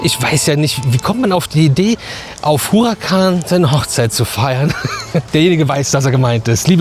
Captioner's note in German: gelächter